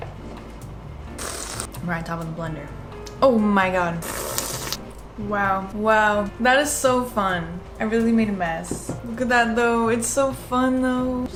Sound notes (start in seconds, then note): 1.1 sippp; 1.6 coffee liquid spilling; 4.0 sippp